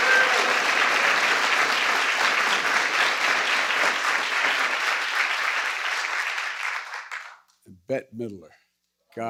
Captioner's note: applause